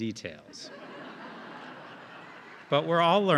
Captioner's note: audience laughing